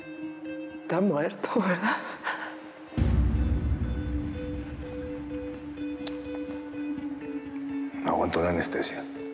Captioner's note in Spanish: sollozos